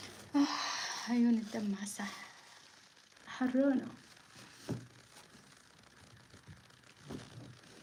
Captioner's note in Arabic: تنهّد; شهيق